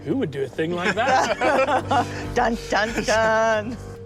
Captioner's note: all laugh